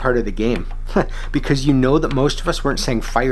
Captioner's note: chuckles